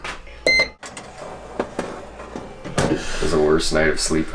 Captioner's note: toaster beeps